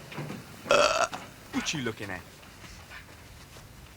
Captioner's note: belches